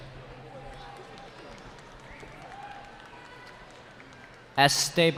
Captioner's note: cheering